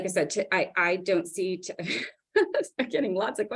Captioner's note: laughs